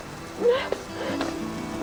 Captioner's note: crying